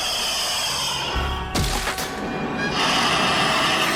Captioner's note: hissing; thuds